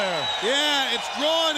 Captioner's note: crowd cheering